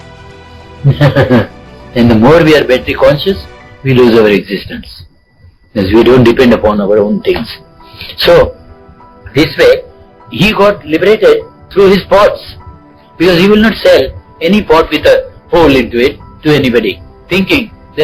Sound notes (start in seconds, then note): 0.8 laughing